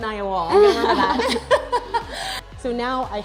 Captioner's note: laughing